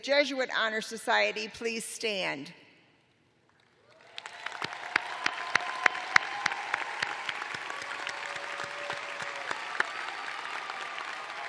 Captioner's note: cheers and applause